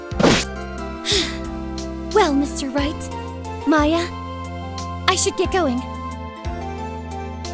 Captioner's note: sigh